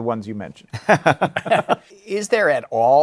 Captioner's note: laughter